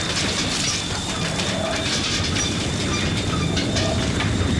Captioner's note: rumbling